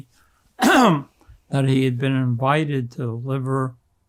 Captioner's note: clears throat